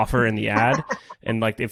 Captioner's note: laughs